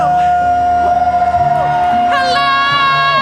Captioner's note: cheering